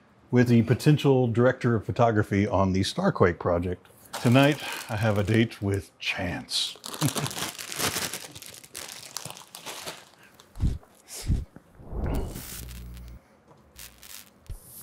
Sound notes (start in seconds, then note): 6.6 ruffling plastic sound